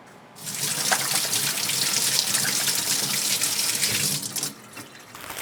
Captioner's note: water running